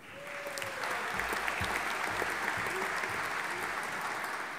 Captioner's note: audience applauding